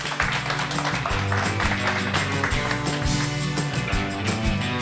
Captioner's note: audience applauds; upbeat music